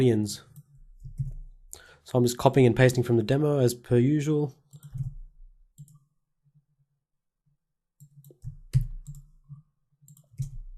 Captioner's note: silence